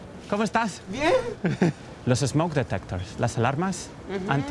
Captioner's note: speaking in Spanish